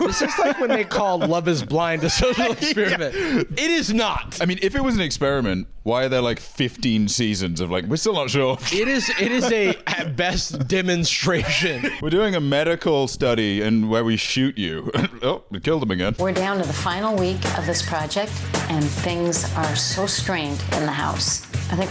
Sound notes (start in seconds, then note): 3.8 laughing